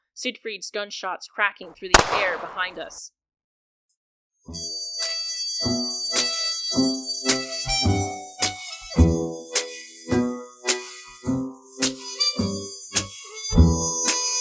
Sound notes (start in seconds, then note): 2.0 running and gunfire; 12.1 outro music fading